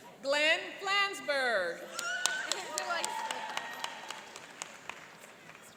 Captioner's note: cheering and applauding